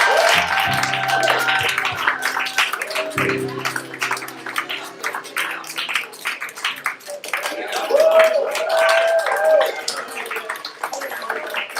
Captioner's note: applause